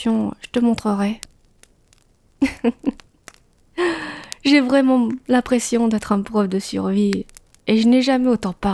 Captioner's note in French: rires